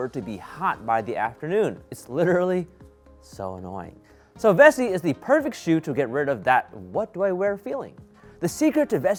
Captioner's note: none